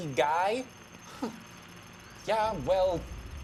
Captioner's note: scoffs